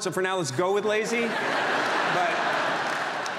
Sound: audience laughs

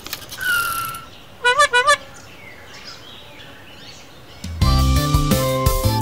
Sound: bike rattling; brakes squeak; horn honks; upbeat music

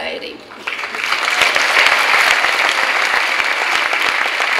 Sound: clapping

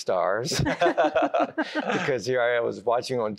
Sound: laughter

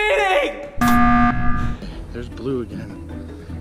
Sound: beeping tone

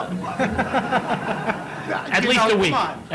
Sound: laughter

